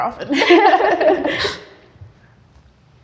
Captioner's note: both laughing